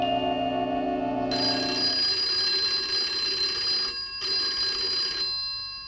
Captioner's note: phone rings